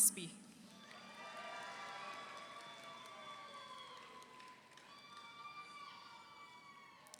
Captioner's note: audience applauds; audience cheers